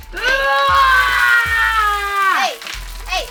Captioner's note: yelling